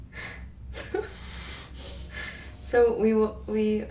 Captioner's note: chuckling